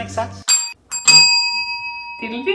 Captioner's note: bells dinging